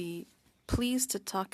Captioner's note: speaking french